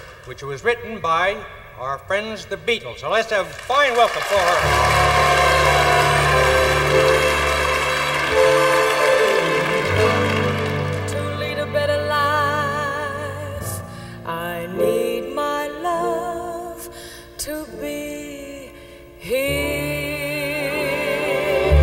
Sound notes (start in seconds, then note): 3.4 audience applauding